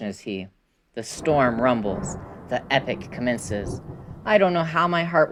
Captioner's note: rolling thunder